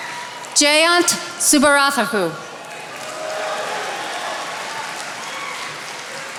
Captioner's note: attendees applauding